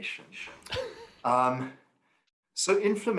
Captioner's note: laughter